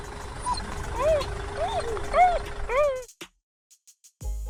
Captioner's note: lorry sounds; puppy squeaks